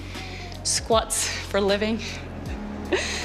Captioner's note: giggles